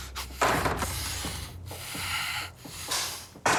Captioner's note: breathes nervously